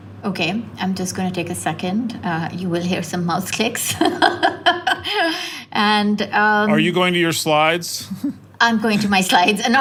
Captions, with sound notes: >> Okay, I'm just going to take a second you will have some mouse clicks. [LAUGH] And >> Are you going to your slides? >> I'm going to my slides, and not